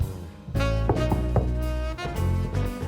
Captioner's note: knock, knock, knock